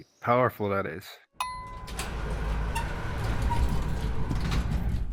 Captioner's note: elevator dings; doors open